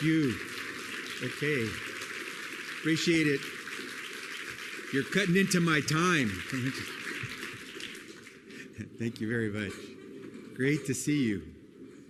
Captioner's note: laughs